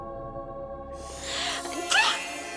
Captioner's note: sneezes